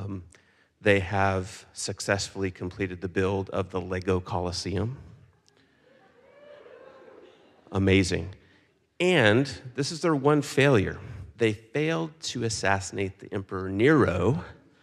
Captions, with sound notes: They have successfully completed the build of the Lego Colosseum. (audience cheers) Amazing. And this is their one failure. They failed to assassinate the Emperor Nero,